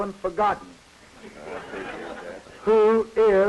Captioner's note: laughter